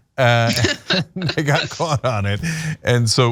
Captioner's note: laugh